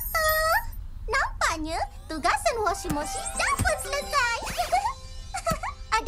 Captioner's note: giggles